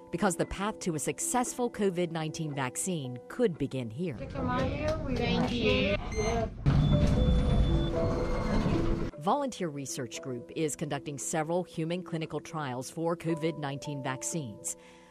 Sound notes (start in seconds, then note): 5.8 elevator rumbling; 6.7 rhythmic music